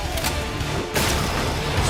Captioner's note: gun shot